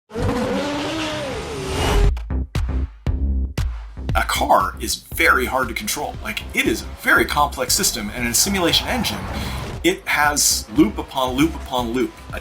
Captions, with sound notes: [car engine roaring] [upbeat music] - A car is very hard to control. Like it is a very complex system and in a simulation engine, it has loop upon loop upon loop.